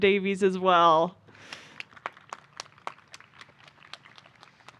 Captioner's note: applause